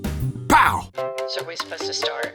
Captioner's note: pow!